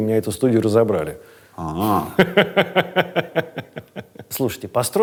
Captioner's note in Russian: смеётся